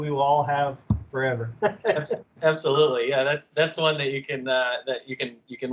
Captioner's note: laughter